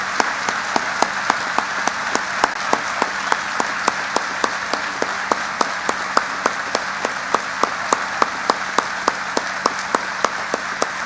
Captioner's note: applause